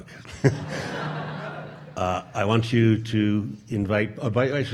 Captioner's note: audience laughing